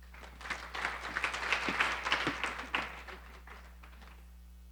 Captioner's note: audience applauding